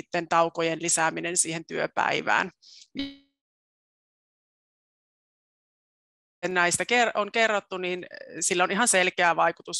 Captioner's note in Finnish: ääni katkeaa